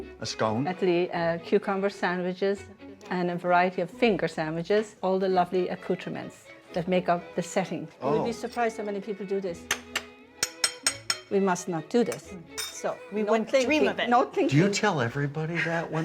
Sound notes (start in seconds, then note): 10.4 spoon clanking